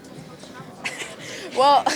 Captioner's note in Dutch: Gelach